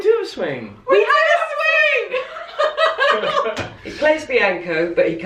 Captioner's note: laughter